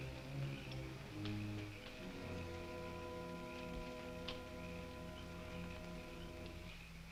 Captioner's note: tense orchestral music; insects chirping